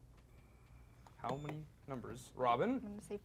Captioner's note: beep